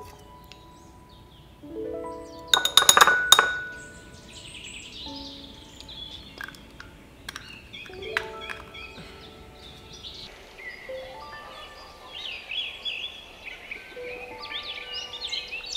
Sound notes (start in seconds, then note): 3.7 birds twitter; 10.9 birds chirp, chickens squabble in distance